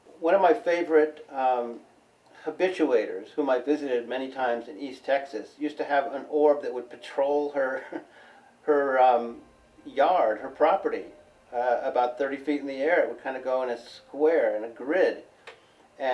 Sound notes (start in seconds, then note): 7.6 chuckles